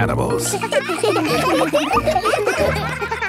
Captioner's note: children laughing